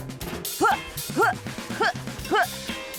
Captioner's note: yelps